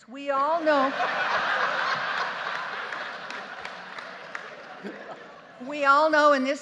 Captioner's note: justices and audience laughing